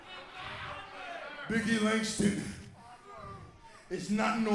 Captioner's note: crowd cheering